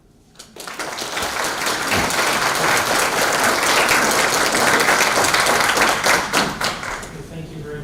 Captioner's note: applause